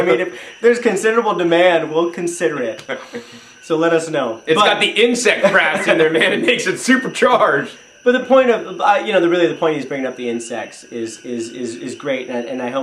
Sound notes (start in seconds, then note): 5.3 laughing loudly